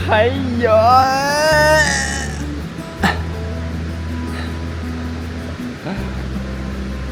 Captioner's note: desperate and powerless scream, hahahaha